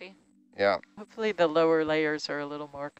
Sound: male Voice

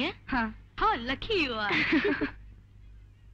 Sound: laughs

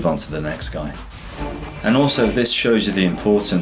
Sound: air whooshes; dramatic instrumental music

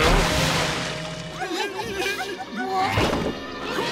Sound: giggling

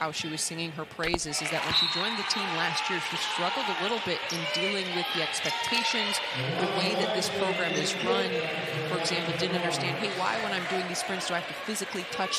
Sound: crowd noise

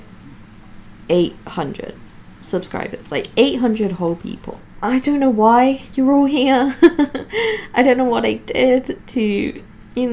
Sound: giggles

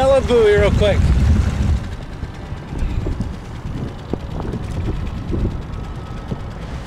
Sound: engine droning; ominous music

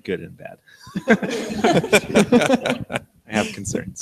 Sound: all laugh

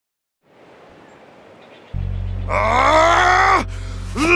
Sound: man in purple suit growls

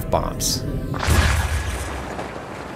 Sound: boom

